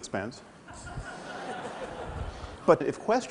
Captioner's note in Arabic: ضحك